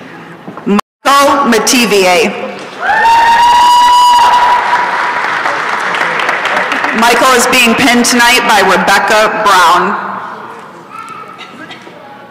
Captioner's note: applause and cheering